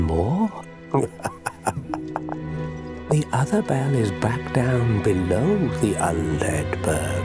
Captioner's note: laugh